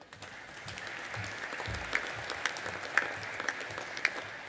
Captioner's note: audience applauding